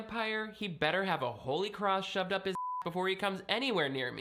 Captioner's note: beep